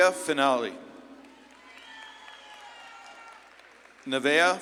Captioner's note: audience claps and cheers